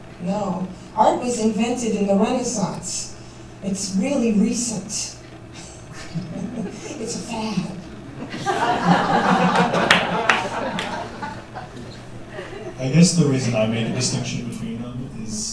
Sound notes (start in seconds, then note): 5.6 soft laughter; 8.0 laughter